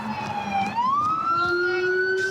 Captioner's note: sirens